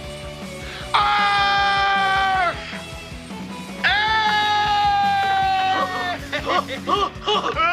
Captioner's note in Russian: Крик радости